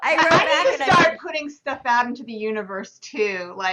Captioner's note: laughter